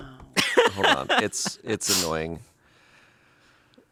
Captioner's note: laughs